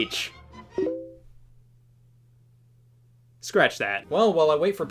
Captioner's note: message sound effect plays